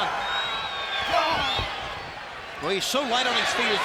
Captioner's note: applause